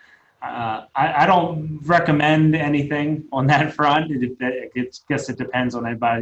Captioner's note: laughing